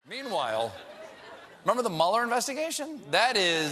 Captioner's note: laughter